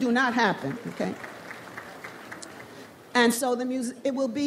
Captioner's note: slight applause